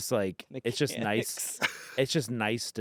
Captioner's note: laughs